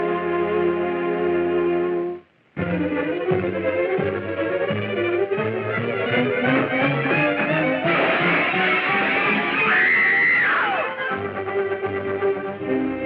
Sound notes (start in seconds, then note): 2.7 shifts to fast-beat music; 7.8 crashing; 9.4 screaming